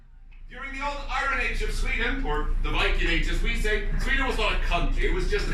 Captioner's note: Viking english